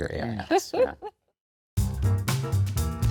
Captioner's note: chuckles; lively music